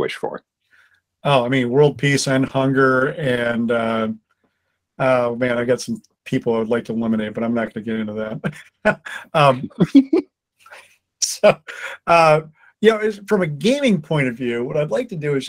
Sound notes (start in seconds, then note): 11.5 laughter